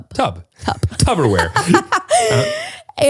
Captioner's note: laughs